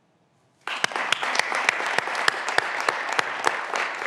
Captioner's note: graduands applauding